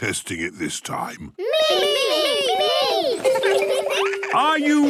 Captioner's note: laughter